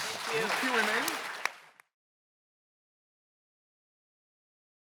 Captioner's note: congregation claps